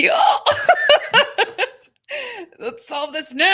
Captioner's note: laughing